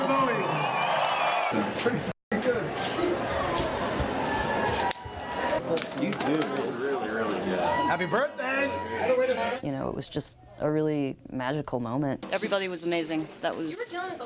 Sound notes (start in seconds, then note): 5.0 chatter